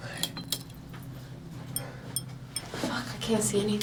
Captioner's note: light bulb clinking